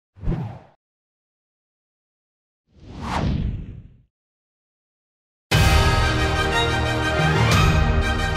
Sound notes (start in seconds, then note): 0.2 whooshing; 5.5 dramatic music